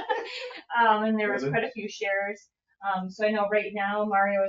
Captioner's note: laughing